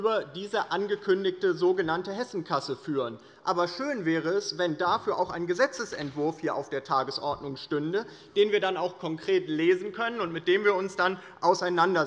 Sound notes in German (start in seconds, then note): none